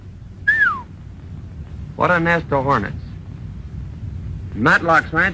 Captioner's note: whistles